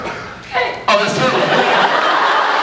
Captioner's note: 2nd fan croaks; laughs